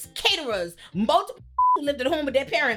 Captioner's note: beep